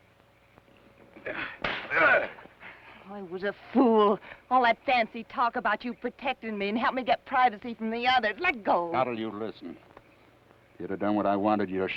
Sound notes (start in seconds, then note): 1.6 slap; 1.9 Theodore grunts